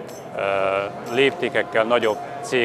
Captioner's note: Arabic